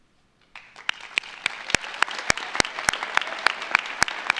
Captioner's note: audience applauds